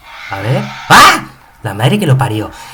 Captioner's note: scream